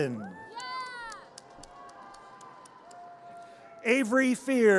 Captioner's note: audience cheers